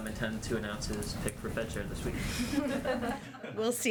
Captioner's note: laughter